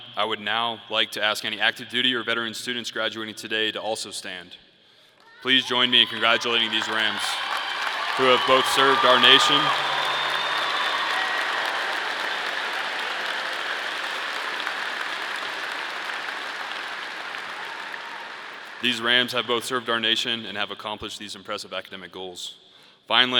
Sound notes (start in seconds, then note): 10.6 audience applauding; 10.6 audience cheering